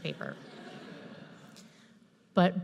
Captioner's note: audience laughs